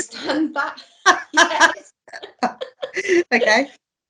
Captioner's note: laughing